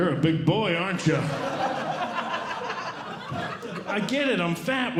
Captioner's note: audience Laughing